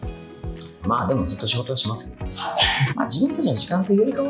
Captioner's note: laughs